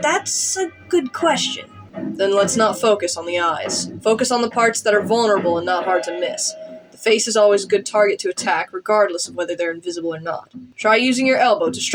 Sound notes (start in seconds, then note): none